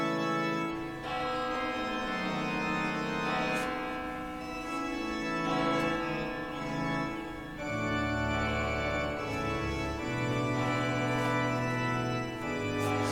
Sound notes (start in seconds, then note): 3.7 bells; 7.8 organ